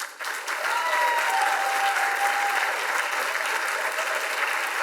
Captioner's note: audience applauds and cheers